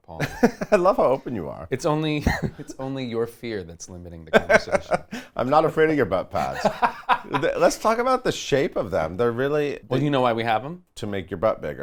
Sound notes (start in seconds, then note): 6.3 laughs